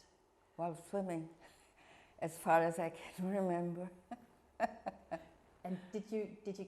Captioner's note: laughing